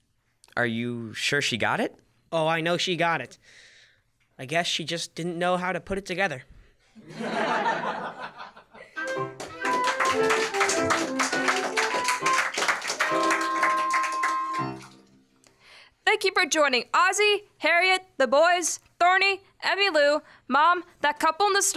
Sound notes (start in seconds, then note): 7.0 laughter